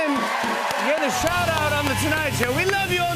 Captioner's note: cheers and applause